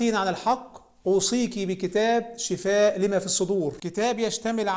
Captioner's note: Arabic